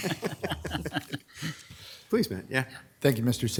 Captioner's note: laughing